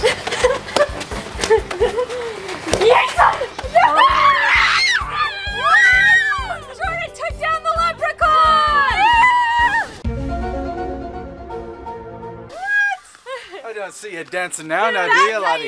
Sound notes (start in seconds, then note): 1.3 laughing; 3.8 screaming